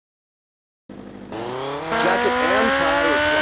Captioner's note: engine revving